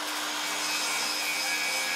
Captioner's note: grinding noise